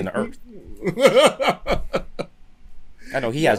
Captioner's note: laughter